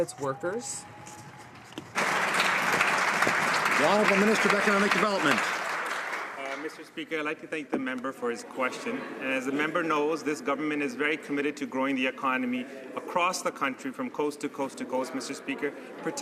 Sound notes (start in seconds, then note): 4.2 some Applause